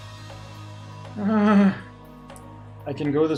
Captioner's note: audibly shudders